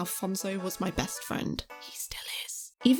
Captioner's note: whispers